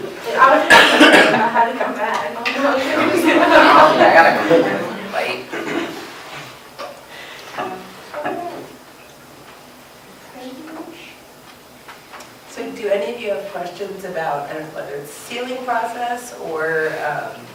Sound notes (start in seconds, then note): 2.7 laughter